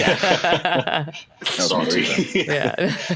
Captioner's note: laughter